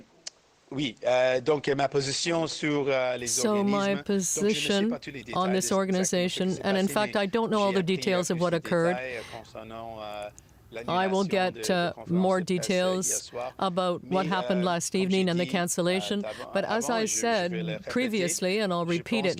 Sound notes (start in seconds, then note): 6.6 speaking french